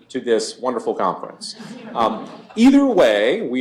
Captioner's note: laughter